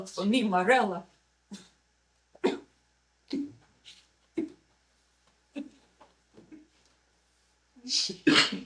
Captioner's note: coughing